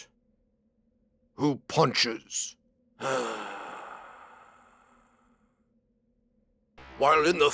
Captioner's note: miserable sigh